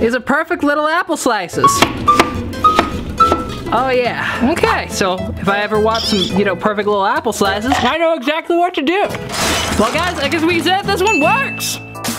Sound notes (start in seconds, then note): 1.8 chopping